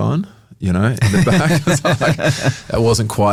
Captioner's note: laughs